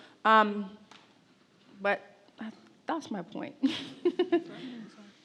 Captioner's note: laughs